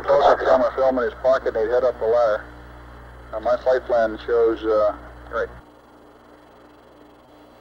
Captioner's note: mission Control Audio